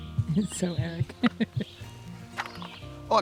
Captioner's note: laughs